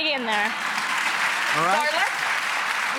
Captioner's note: clapping